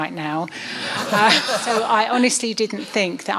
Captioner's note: laughing